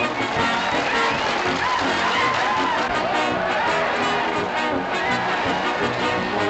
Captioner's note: applause and cheers - inspiring music